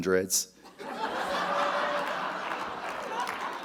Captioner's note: audience laughs; audience applauding